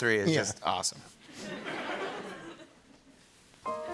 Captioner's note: laughter